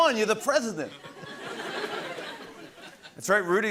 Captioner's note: laughter